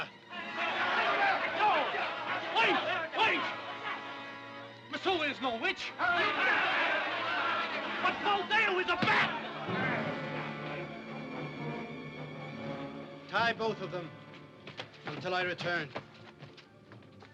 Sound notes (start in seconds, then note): 0.2 crowd clamors; 5.9 crowd clamors; 9.7 thump